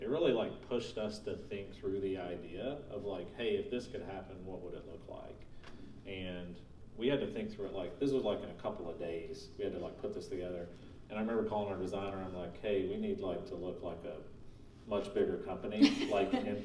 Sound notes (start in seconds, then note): 15.8 laughing